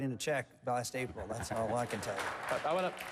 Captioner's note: applause